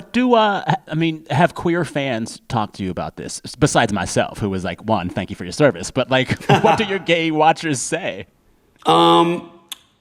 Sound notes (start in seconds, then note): 6.2 laughter